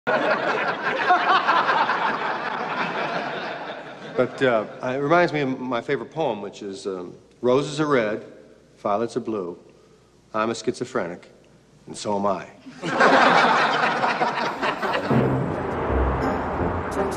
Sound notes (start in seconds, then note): 0.1 everyone laughs; 12.7 everyone laughs